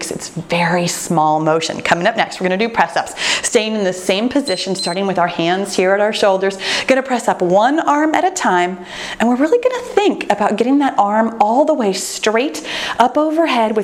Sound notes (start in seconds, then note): 3.7 timer beeps